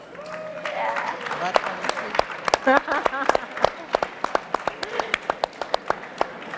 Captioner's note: audience and panelists applauding